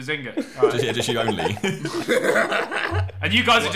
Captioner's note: laughing